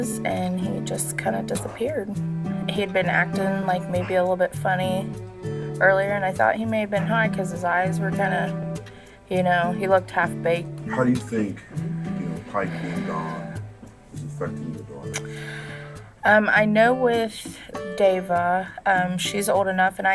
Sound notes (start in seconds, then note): 15.2 Jessica Inhaling